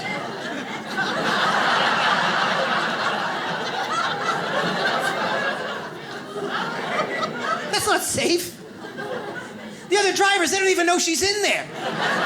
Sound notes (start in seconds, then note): 0.0 audience laughs